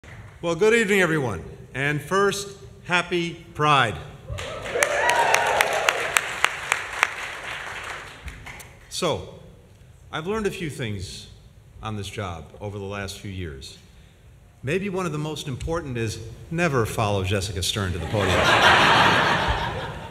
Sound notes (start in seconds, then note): 4.3 applause; 18.0 laughter